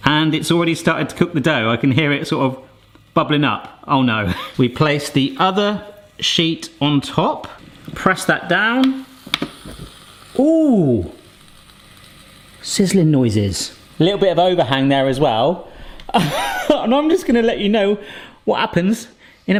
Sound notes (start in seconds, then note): 9.3 samosas sizzle in appliance; 16.1 laughs